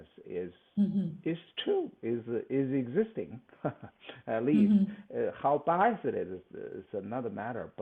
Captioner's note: laughs